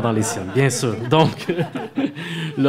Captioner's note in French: rires